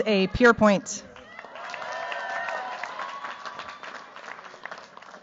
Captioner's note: cheers, applause